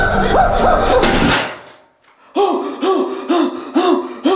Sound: panting

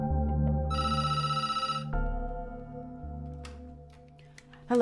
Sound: phone ringing

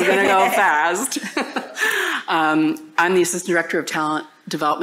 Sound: laughter

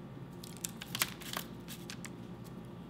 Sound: candy dropping

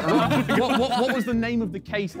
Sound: men laughing

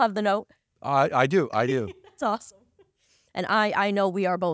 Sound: laughing

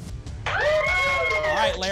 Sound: applause and cheering

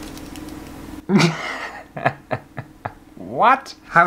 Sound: laughter

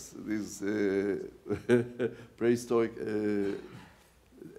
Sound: laughs

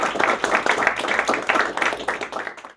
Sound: applause

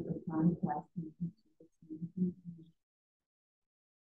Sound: woman mumbling

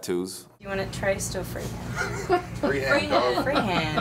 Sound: LAUGНlNG

